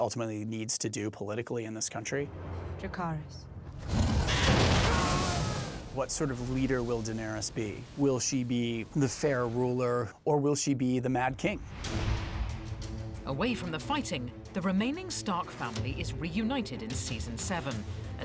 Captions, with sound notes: needs to do politically in this country. Dracarys. (SCREAMING) What sort of leader will Daenerys be? Will she be a fair ruler or will she be the Mad King? Away from the fighting, the remaining Stark family is reunited in season seven